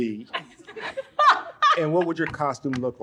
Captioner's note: laughs; audience laughs